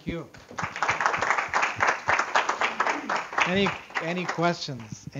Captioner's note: audience Applause